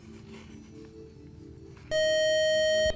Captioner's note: loud buzzer